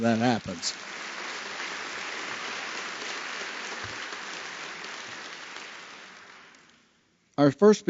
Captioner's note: applause